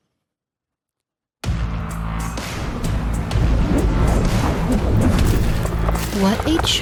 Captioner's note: wind whirling